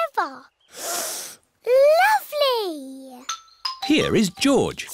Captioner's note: sniffs